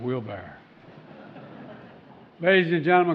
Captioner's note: laughter